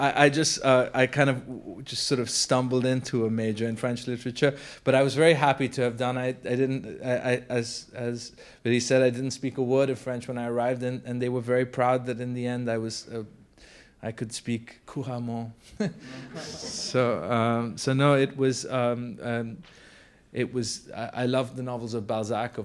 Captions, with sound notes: - I kind of just sort of stumbled into a major in French literature. But I was very happy to have done, I didn't, as Biddy said, I didn't speak a word of French when I arrived and they were very proud that in the end I could speak (speaks French) So no, it was, I loved the novels of Balzac, of Maupassant,